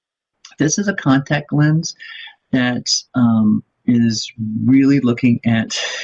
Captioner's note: laughs